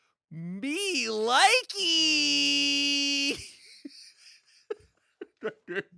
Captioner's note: laughs